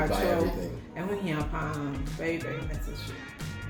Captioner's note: Speaks in twi